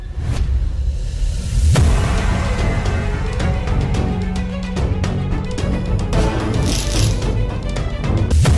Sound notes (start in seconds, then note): 0.8 dramatic music; 6.1 electric current sound